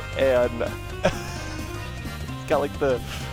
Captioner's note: laughing